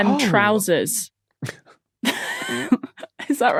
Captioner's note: crack up